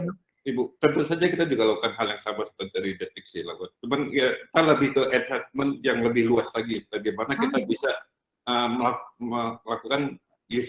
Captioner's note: non-english speech; non-english speech